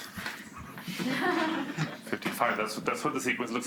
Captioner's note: students laugh